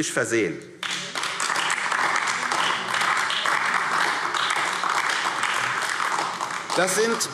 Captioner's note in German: Beifall AfD